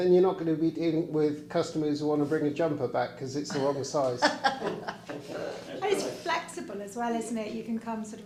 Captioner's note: laughter